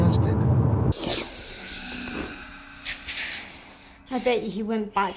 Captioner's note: sniffing